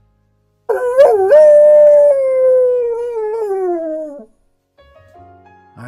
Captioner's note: a howl of pain